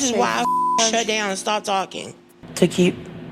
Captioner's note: beep